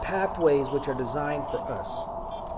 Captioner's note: voiceover